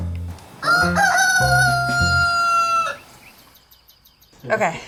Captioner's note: rooster crows